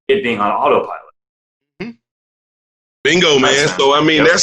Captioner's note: grunts in agreement